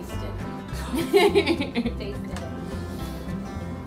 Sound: laughing

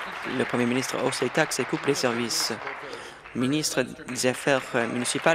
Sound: applause

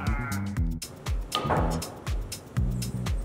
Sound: laughing; cue ball being hit; groovy Music

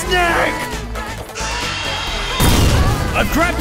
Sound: shrill roar

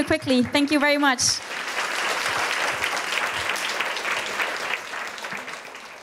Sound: audience applauding

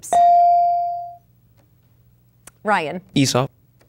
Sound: dinging

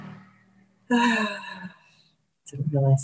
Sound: sigh

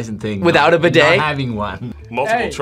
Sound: laughs

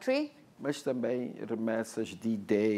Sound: speaking portuguese

